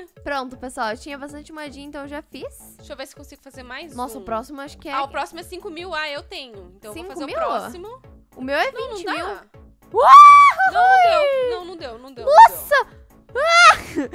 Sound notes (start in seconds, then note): 9.9 screams